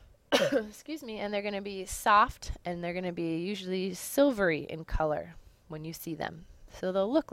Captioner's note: cough